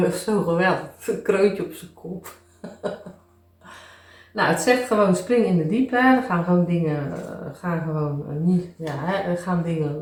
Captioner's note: laughs